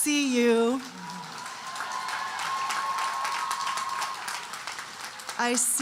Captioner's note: audience cheering and applauding